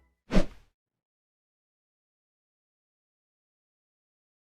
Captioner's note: air whooshing